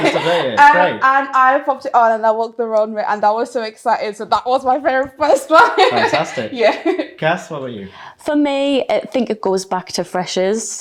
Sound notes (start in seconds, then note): 5.5 laughs